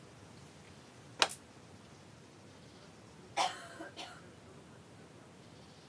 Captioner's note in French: silence